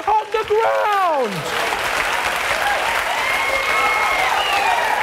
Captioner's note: audience applauding